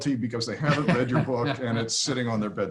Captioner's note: laughs